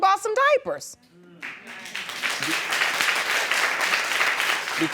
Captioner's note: audience applauding